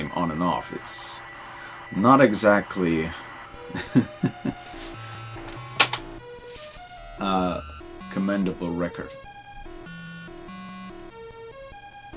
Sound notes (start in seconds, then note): 3.6 laughs